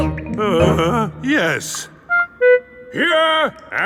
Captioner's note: groans